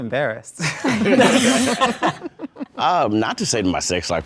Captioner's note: group laughing